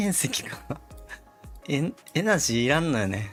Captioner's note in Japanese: 笑い